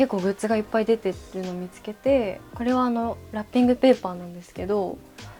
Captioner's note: sliding doors